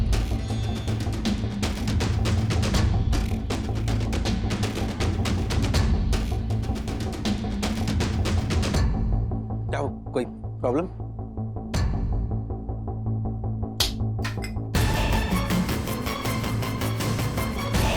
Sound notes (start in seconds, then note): 4.9 music intensifies; 13.8 slaps; 14.5 tense music playing